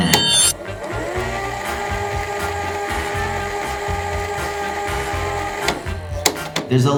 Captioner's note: tape whirring; gentle music